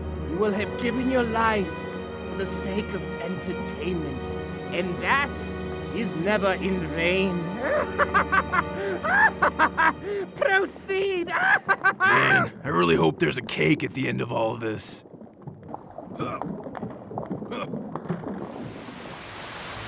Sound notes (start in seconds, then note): 7.6 laughs maniacally; 11.4 laughter continues; 16.2 grunting